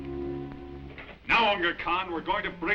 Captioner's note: crash